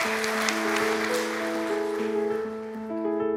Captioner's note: applause from the audience